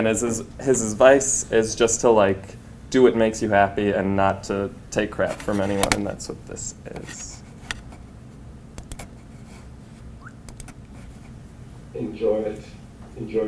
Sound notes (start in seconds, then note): 7.7 clicking